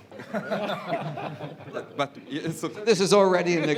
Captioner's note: laughter